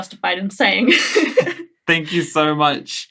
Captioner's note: laughing